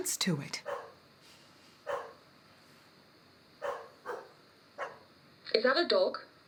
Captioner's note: dog barking in distance